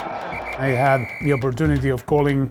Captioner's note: whistle blowing